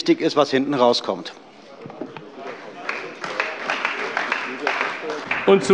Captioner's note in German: Beifall bei der CDU und dem BÜNDNIS 90/DIE GRÜNEN